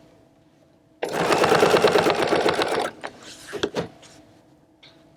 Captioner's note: machine whirring